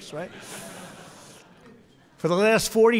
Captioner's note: laughter